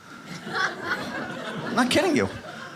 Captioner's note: audience laughs